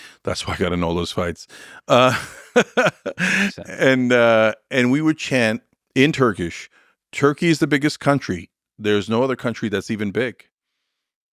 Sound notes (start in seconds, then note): 1.9 laughs